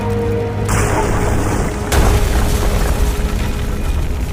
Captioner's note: explosion booms